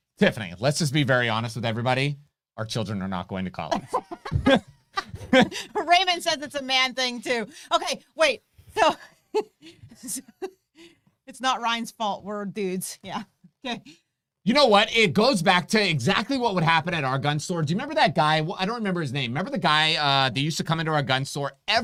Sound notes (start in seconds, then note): 3.7 both laughing; 8.8 laughing